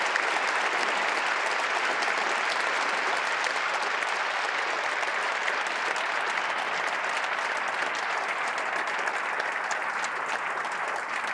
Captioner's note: applause